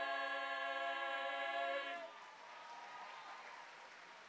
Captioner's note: applause